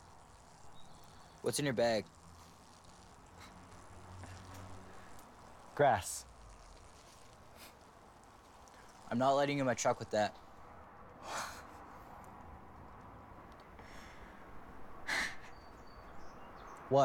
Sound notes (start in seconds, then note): 11.1 scoffs; 14.9 he laughs